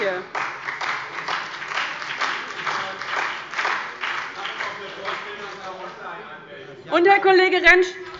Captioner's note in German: Beifall bei dem BÜNDNIS 90/DIE GRÜNEN und der CDU